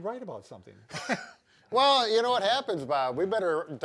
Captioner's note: laughs